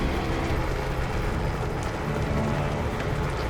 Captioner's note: helicopter flying